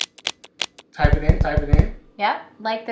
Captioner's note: typing; tapping on microphone